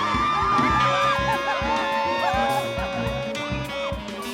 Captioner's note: applause